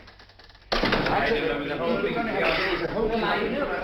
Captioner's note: clamoring continues